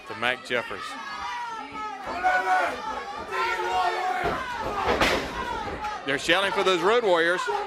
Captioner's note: crowd cheering